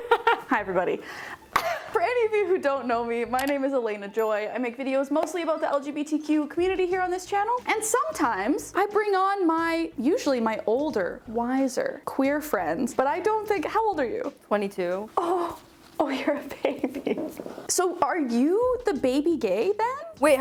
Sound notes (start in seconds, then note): 0.0 laughing; 1.9 coughs